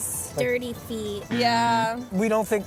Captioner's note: buzzer blaring